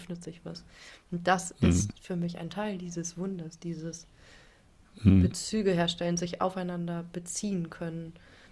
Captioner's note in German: räuspern